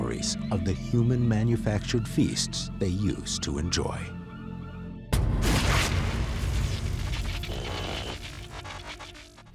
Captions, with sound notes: erased any memories of the human-manufactured feasts they used to enjoy. [thuds] [buzzing and crackling]